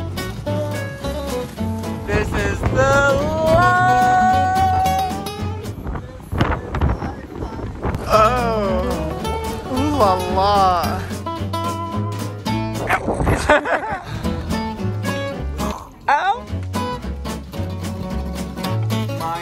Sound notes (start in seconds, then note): 11.3 bright music continues; 12.8 laughs; 12.9 barks; 16.2 bright music continues